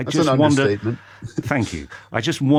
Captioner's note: laughs